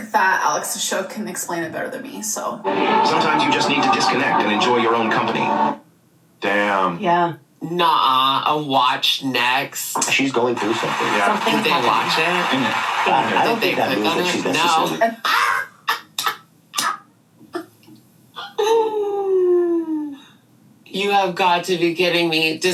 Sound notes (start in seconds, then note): 14.6 laughs